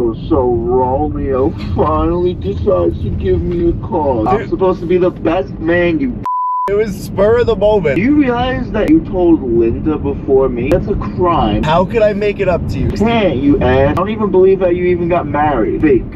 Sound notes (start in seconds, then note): 6.2 beep